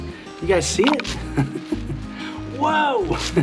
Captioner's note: laughs